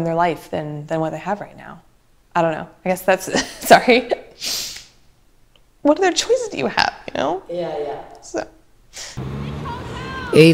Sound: sniffles

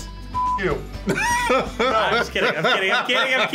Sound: laughs

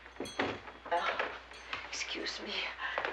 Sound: doorbell tinkles

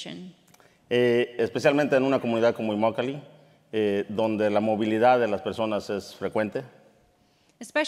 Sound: speaking in Spanish

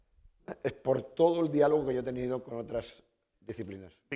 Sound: speaking spanish

